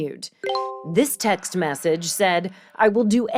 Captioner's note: phone notification ping